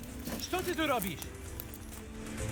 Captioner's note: in russian